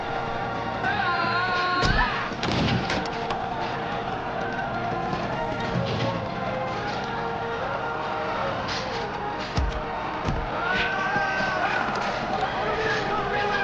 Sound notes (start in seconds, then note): 2.4 thud; 4.0 people yelling